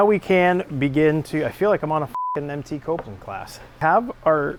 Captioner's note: beeps